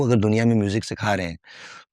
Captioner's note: speaking hindi